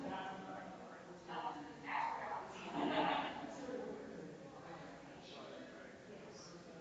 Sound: people chattering distantly continues

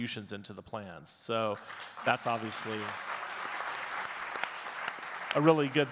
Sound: audience clapping

